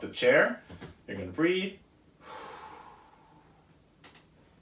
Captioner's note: exhales